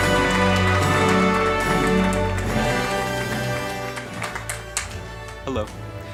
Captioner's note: applause